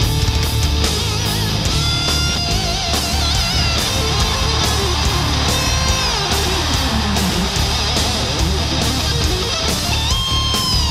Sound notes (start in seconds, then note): 2.6 audience cheering; 4.1 guitar music continues